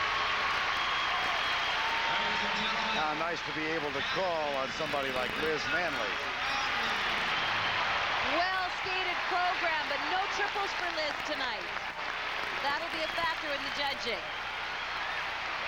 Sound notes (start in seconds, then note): 1.1 cheers and applause